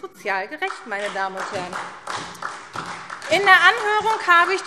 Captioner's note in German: Beifall SPD